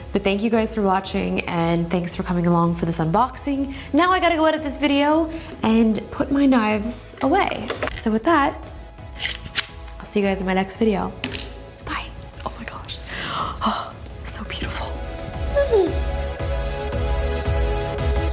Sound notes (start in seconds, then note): 13.1 exhales sharply